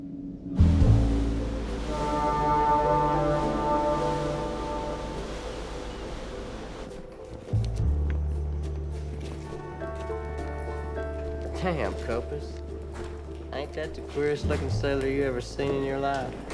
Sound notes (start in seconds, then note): 0.6 horn blares; 4.8 light jazz music